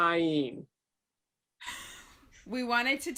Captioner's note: Mom crying